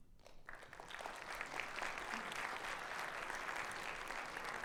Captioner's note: applause